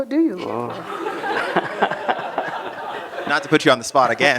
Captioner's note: laughter